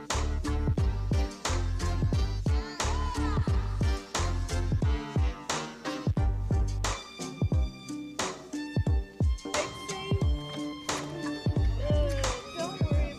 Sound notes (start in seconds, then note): 9.5 crowd chattering